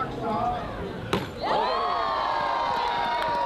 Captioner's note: cheering